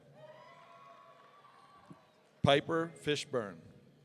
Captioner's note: audience cheering